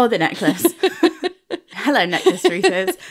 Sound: laughing

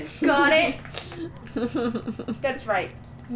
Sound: laughter

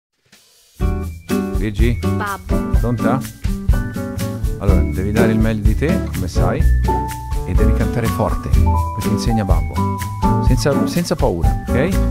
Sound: speaking in italian

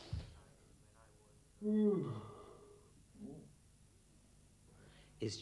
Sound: yawning

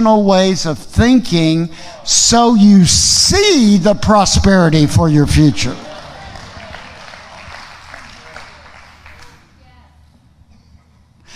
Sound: audience applauding

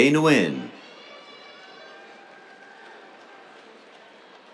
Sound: cheers

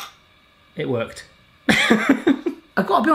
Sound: laughing

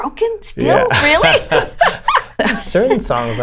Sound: laughter

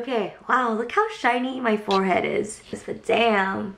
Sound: none

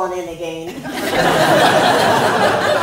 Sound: laughter

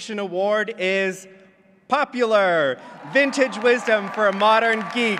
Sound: applause

